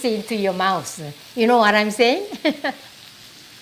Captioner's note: laughs